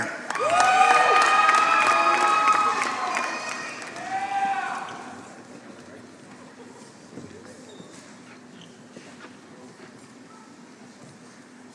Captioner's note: applause